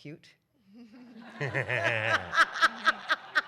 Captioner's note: laughter